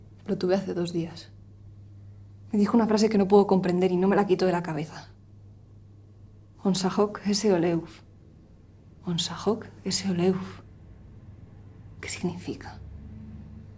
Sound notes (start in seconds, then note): 6.9 speaks non-española